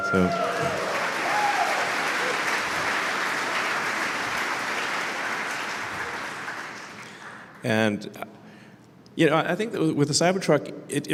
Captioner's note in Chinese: Applause; 掌声